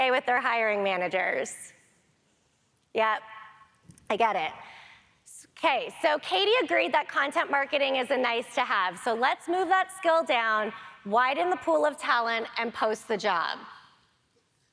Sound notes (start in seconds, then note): none